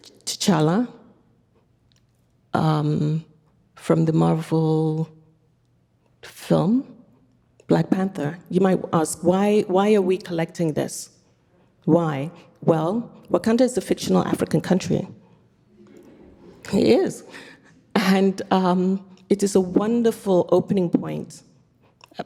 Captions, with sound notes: T'Challa from the Marvel film "Black Panther." You might ask, why are we collecting this? Why? Well, Wakanda is a fictional African country. (audience laughing) It is. (laughing) And it is a wonderful opening point,